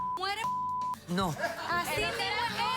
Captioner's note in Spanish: risas